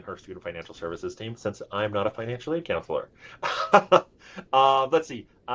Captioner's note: laughs